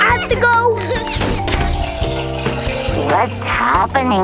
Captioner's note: chuckles